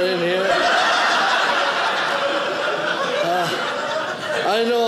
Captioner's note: audience laughing